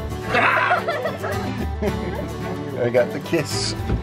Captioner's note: screaming; children laughing